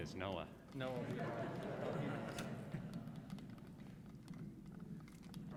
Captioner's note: audience chuckles